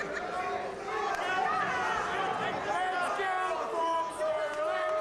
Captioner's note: crowd yells